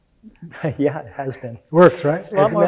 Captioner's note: laughs